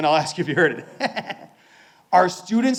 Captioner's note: laughing